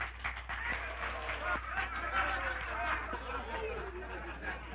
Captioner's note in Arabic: الحشد يصفق; الرجال يضحكون